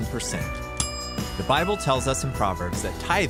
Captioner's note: dinging